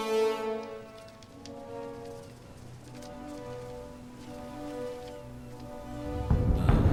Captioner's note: wings Flapping